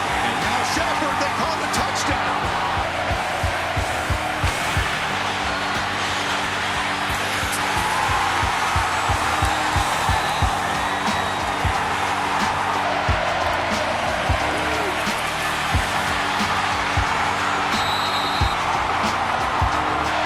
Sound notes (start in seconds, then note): 9.2 cheering; 17.3 whistles